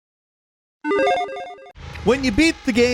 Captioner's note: video game chime rings